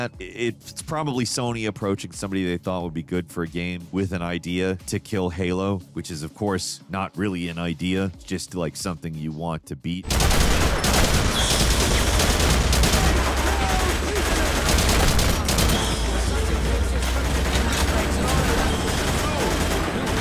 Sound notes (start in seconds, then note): 10.1 guns booming